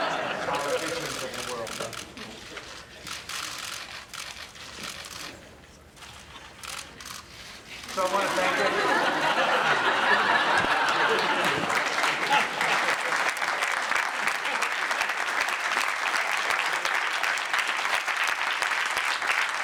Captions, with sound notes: So, I want to thank -- (laughter)